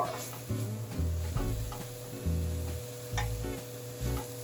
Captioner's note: mixture sizzling